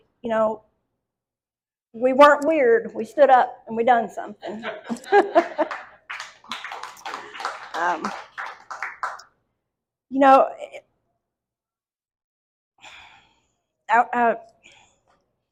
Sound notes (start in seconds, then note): 4.4 chuckles; 4.9 audience applauds